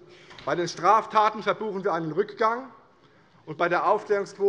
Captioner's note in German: none